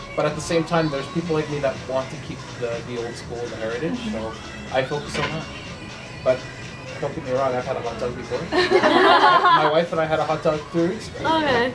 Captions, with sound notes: But at the same time, there's people like me that want to keep the old-school heritage So... I focus on that But don’t get me wrong, I’ve had a hot dog before [group laughter] My wife and I had a hot dog three weeks ago